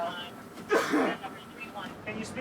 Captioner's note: coughs